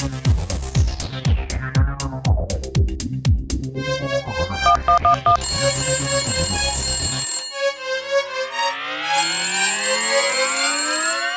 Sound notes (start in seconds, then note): 4.6 phone rings